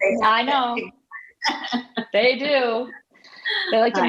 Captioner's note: laughing